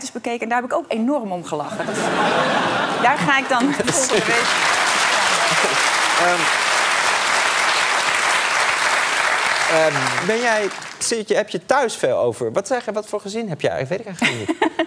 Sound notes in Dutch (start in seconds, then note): 1.6 gelach; 3.7 applaus; 7.6 applaus